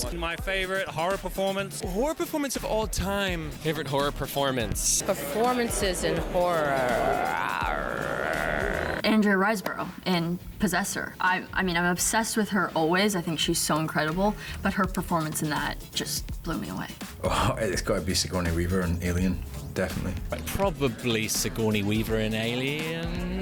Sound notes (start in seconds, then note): 5.9 roars